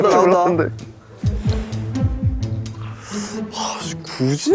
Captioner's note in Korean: 두근두근